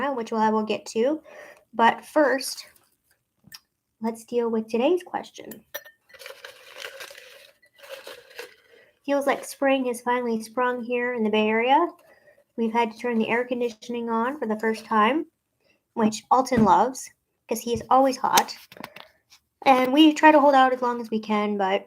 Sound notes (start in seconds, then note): 5.5 glass clinks; 6.2 paper rustling